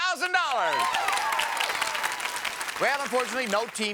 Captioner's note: audience cheers